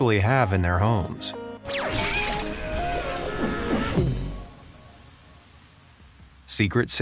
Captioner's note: upbeat music; exciting sound effects